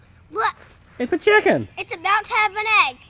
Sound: voiceover

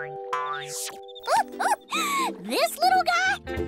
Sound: laughing

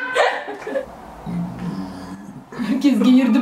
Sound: burps

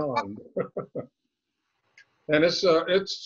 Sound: laughing

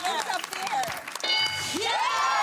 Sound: applause; bell dings; cheering

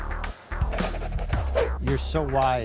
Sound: funky pop music; eraser scratches

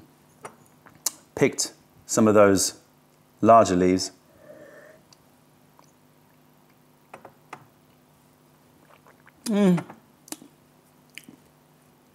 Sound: sips tea

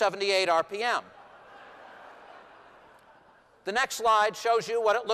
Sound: laughter

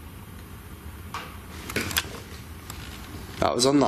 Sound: click

